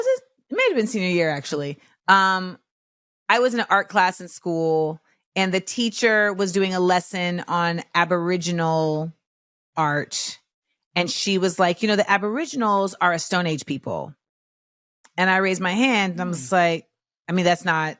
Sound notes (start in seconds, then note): none